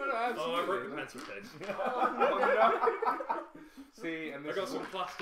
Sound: laughter

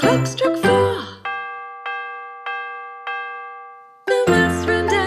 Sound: bell dings

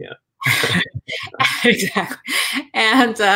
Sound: laughing

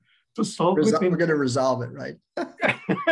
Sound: laughter

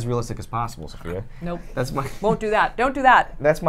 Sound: chuckles

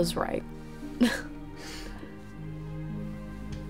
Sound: Summer chuckles

